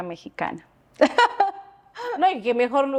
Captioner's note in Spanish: Risas